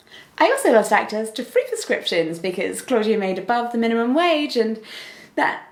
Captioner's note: deep breath